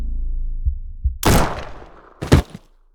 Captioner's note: gun shoots; body drops